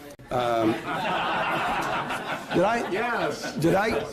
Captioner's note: laughter